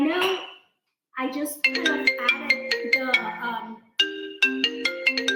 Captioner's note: cellphone ringing